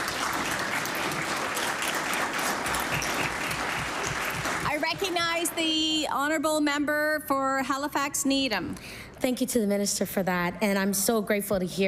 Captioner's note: applause